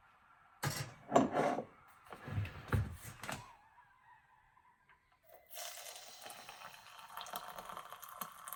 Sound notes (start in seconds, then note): 5.5 water pouring